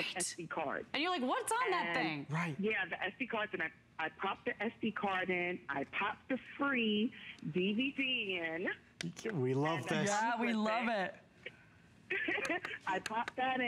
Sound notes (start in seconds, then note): 12.1 laughter